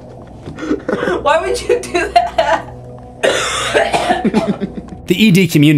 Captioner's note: coughing fit